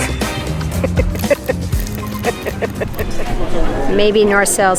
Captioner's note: laughing